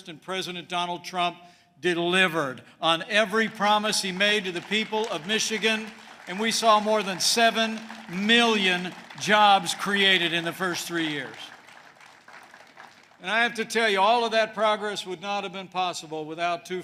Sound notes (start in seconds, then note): 5.9 applause